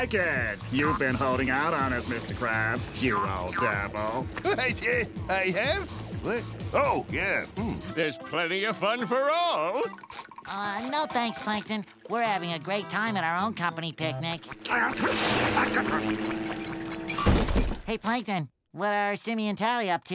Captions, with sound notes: You've been holding out on us, Mr. Krabs you old devil. [chuckling] I have? Oh yeah. There's plenty of fun for all! Uh, no thanks, Plankton. We're having a great time at our own company picnic. Hey Plankton, what are Simmy and Tally up to?